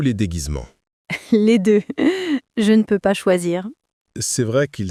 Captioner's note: laughing